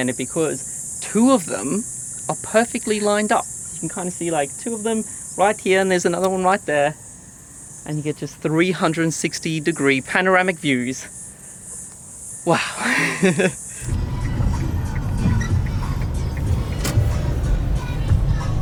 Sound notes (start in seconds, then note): 12.4 laughs; 13.5 turn signal ticking